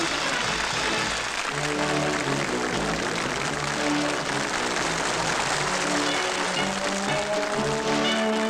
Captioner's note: applause